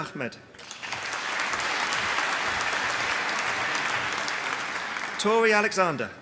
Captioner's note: applause